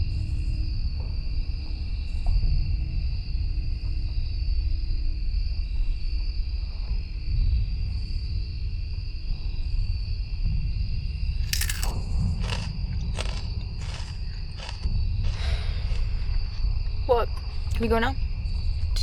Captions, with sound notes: [ Fritos crunching, loud chewing ] [ Amber sighs ] What? Can we go, now?